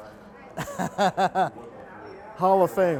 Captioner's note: laughs